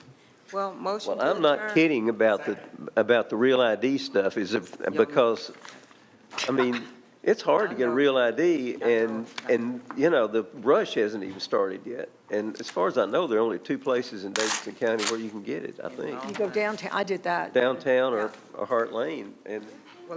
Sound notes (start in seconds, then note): 14.3 paper tearing